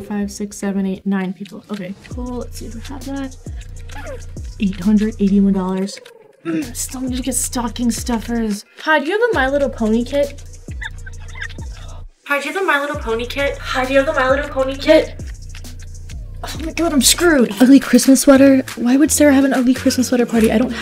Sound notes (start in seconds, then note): 5.7 grunting; 10.7 sighing